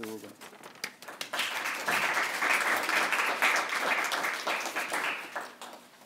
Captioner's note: applause